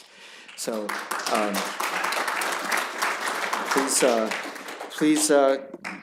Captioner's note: applause